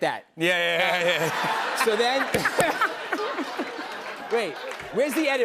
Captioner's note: laughter